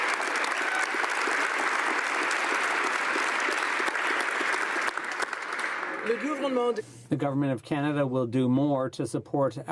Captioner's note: applause